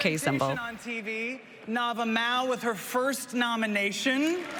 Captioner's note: applause